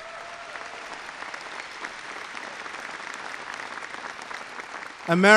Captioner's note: applause